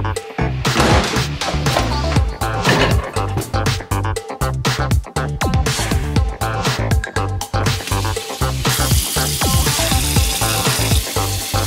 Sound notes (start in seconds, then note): 0.6 door thuds; 4.4 upbeat music continues; 7.6 water running